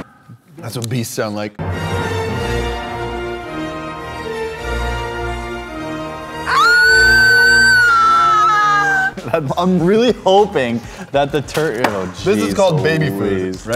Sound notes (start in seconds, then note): 6.4 screaming/velociraptor noises